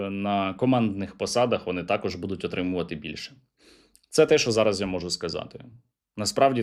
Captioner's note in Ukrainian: сопіння